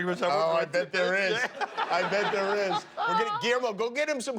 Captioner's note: laughter